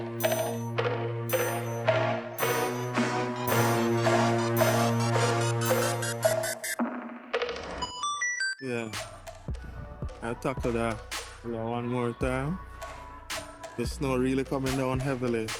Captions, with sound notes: (engine revving) Yeah, i'm gonna tackle that one more time. The snow really coming down heavily,